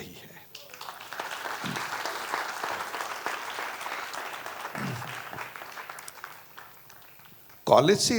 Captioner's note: applause